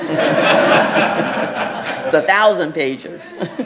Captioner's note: laughing